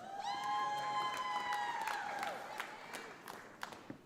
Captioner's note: audience applauds